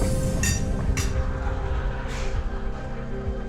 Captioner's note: dramatic music; clinking